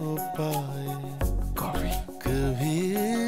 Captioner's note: Mouthing